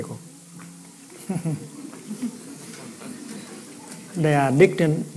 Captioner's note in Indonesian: Suara tertawa